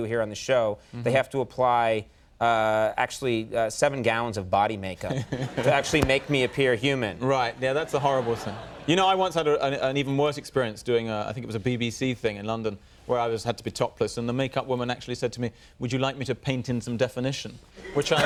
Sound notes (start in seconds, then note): 5.3 Hue laughing